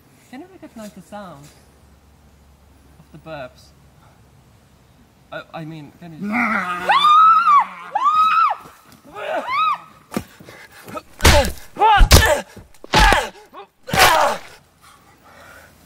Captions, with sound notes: Can you recognize the sounds? Of the birbs? I mean *Zombie groans, Emilia and Freddie scream* *SMACK SMACK SMACK SMACK*